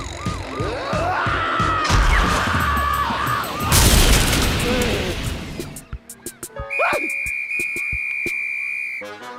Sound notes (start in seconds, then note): 6.6 whistle blows